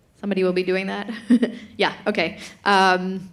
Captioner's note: chuckles